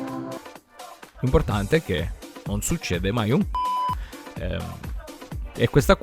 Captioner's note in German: piep